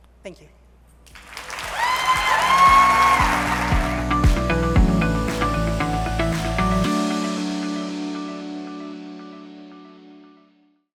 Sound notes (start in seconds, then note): 1.1 audience applauding and cheering; 4.2 upbeat music